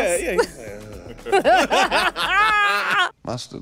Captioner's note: laughter